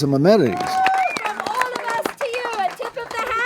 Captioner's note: people cheering